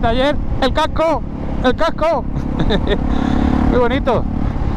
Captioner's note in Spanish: risas